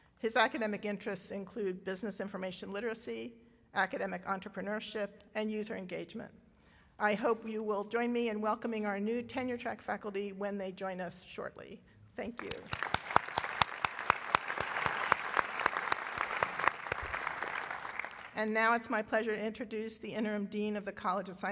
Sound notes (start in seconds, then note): 14.4 applause